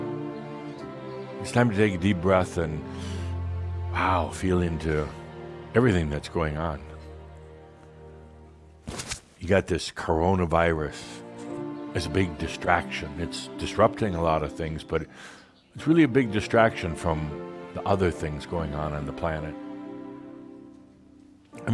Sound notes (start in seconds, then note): none